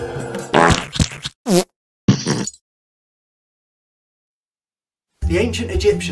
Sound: loud fart

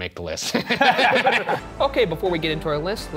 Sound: group laughing

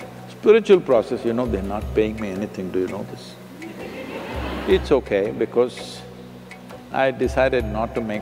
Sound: laughter

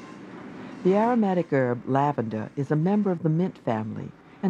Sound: voiceover

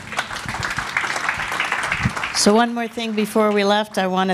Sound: applause

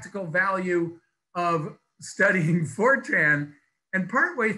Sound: laughs

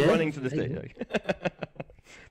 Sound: laughs

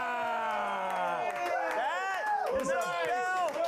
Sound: applause

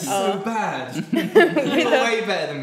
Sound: group chuckling

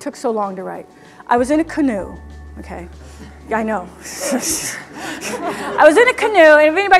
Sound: laughter

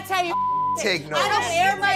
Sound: beep

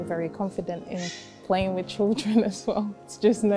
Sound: laughs

